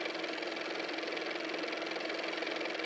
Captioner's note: car motor